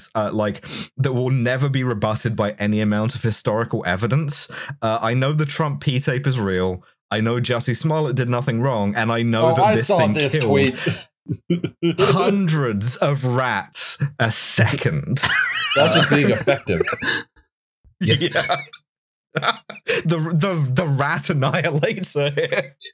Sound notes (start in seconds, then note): 19.0 laughter